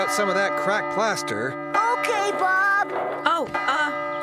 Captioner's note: clock Chimes